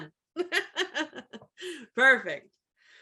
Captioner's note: laughs